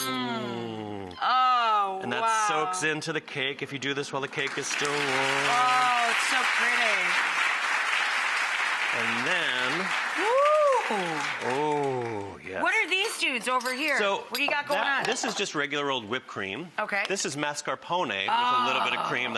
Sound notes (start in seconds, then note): 6.0 audience applause